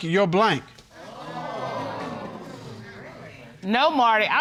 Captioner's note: audience gasps